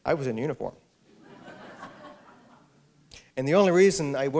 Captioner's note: laughter